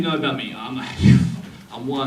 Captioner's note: heavy breathing